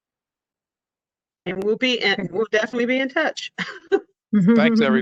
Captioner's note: laughter